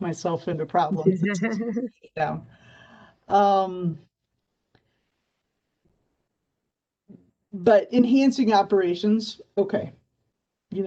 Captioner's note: laughter